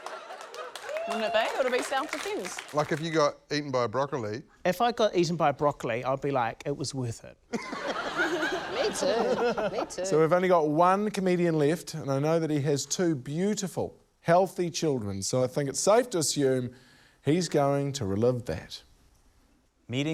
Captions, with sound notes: (SCATTERED APPLAUSE, WHOOPING) Wouldn't it be? It'd be self-defence. - Like, if you got eaten by a broccoli... - If I got eaten by broccoli, I'd be like, 'It was worth it.' (LAUGHTER) - Me too. Me too. - So we've only got one comedian left, and I know that he has two beautiful, healthy children, so I think it's safe to assume he's going to relive that.